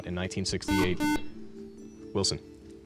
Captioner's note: beep